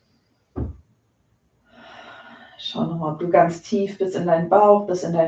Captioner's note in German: seufzt